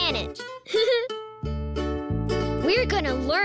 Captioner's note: laughs